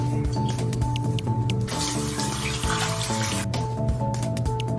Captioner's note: shaving noises; sink noises